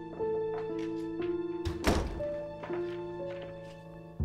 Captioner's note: the door closing sound